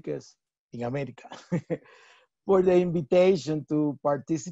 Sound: chuckles

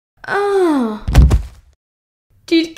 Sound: thump!

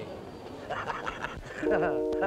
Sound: hearty laughter; tender instrumental music

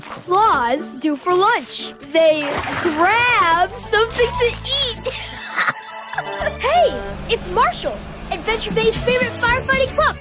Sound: laughs Hysterically; beep Beep

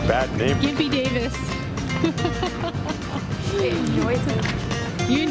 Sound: laughs

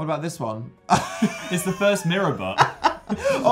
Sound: laughing

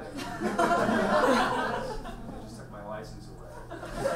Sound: audience laughs

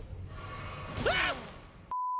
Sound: screams

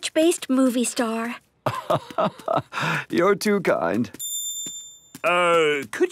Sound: laugh

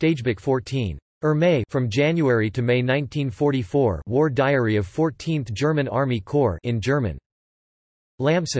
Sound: in German

